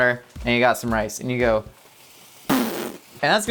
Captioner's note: blowing raspberry